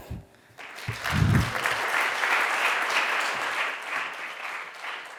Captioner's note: people clapping